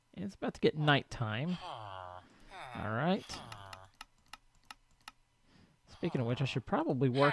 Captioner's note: chattering continues